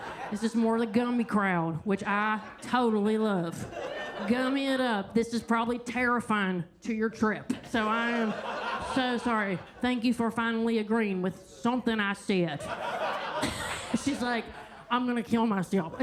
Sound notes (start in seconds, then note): 7.6 attendees laughing; 12.6 everybody laughing